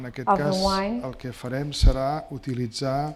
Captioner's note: speaking spanish